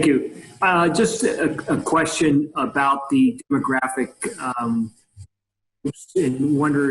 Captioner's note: speaking faintly